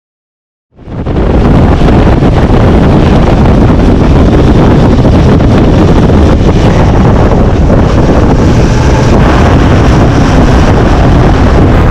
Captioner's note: motorbike engine